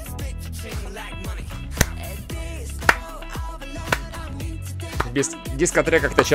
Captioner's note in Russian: Хлоп. Хлоп. Хлоп. Хлоп